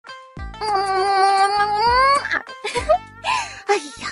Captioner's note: kiss